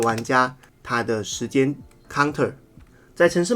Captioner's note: timer